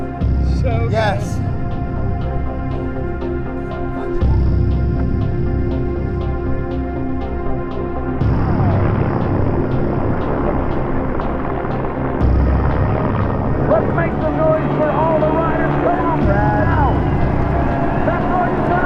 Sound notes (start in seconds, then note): 3.2 pulsing music; 9.1 helicopter blades whirring